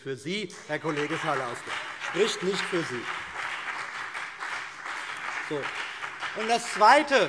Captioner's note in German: Beifall BÜNDNIS 90/DIE GRÜNEN